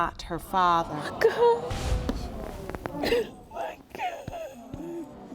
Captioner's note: sobbing